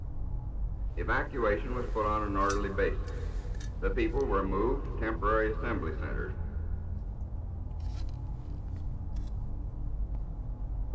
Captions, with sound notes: [GHOSTLY RADIO] The evacuation was put on an orderly basis. The people were moved to temporary assembly centers. [LOW DRONE]